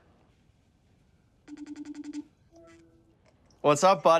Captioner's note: ringing